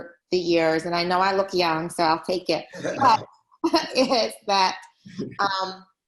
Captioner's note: laughs